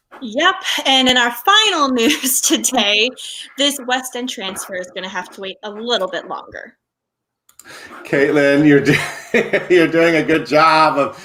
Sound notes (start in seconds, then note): 0.2 laughing